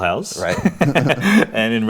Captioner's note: laughs